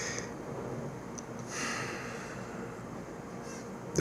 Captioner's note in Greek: αναστενάζει